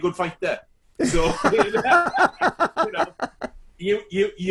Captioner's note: both laughing